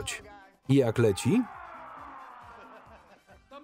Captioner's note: yelling